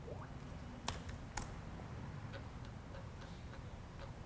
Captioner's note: keyboard clicking